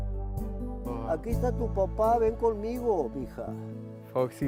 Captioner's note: calling to turtle in spanish